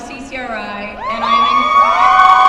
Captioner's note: applause